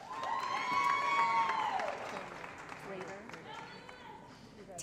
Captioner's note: applause & Cheering